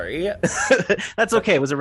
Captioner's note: laughing